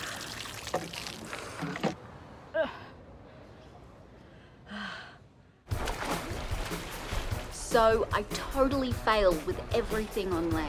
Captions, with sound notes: Eh! (Exhales) So, I totally failed with everything on land.